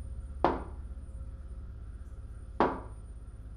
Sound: knocks

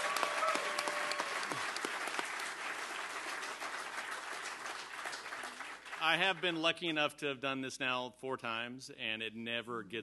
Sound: cheering and applause

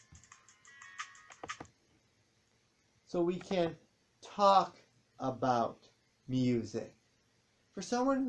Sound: music stops

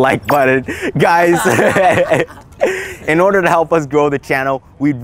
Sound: laughs

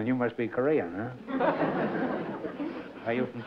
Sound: laughter

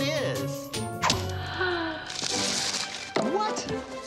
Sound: gasping

